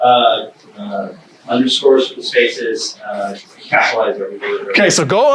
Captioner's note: faintly speaking